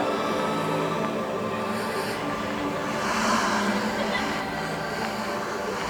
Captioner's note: ghostly whispers